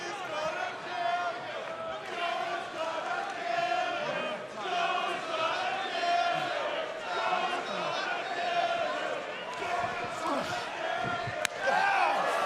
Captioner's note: fans chanting